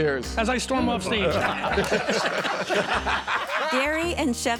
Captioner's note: laughing